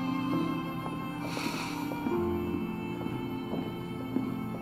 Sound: Jake sighs

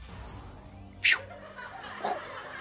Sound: whoosh noise; whoosh noise

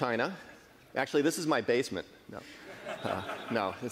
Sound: laughing

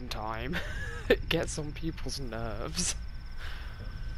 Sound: laughs

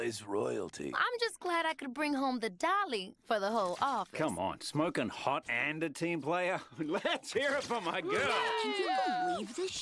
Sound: chuckling

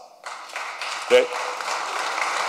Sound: applause

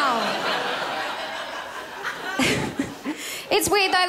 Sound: crowd laughs

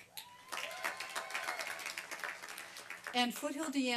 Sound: applause and cheering

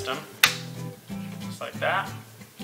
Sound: laptop clicks

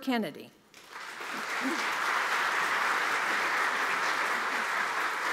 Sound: audience applauding

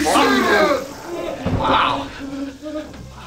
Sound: loud yell

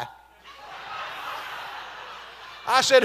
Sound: congregation laughing

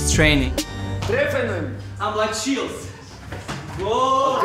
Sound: speaking German

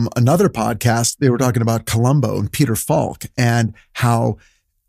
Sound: none

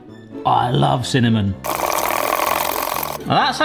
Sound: stirring sounds

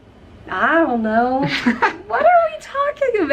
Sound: laughter

